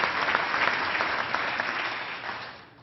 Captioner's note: applause